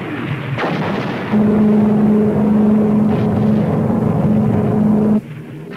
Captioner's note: weapons firing; plane engine revving